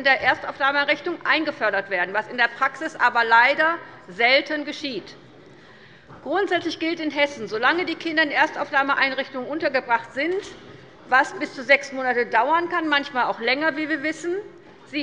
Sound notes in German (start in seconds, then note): none